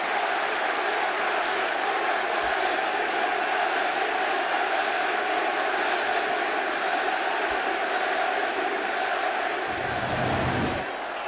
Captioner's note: crowd cheering